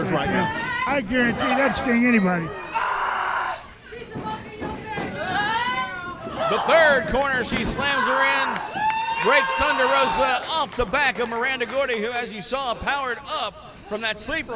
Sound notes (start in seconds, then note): 0.9 wrestlers grunting